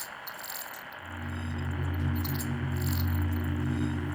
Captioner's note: beeps shift to rhythmic tones